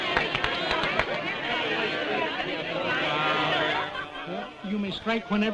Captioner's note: chatter